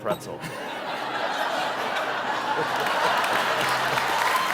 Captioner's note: laughter; cheers and applause